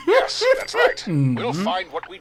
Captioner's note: laughing